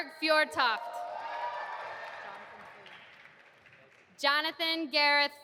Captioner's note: audience applauding